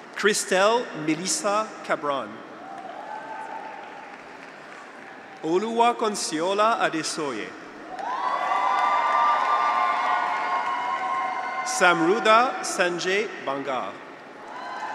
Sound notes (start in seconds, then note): 2.5 graduates cheer; 7.8 graduates cheer; 7.9 audience applauds